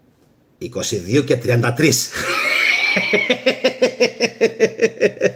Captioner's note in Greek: γέλια